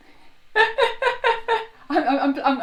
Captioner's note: laughing loudly